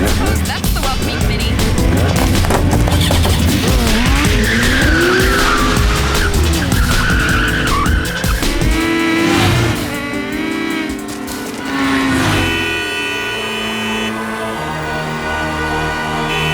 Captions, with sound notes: I don't suppose that's the welcoming committee. [wheels sputtering] [cars honking]